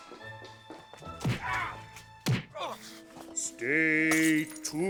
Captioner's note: sounds of a brutal beating